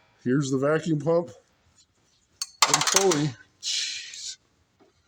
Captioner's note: tools clatter